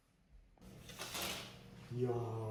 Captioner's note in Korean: 커튼 치는 소리